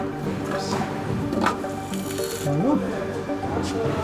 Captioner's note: machine clacks